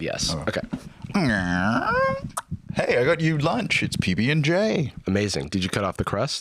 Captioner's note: creaking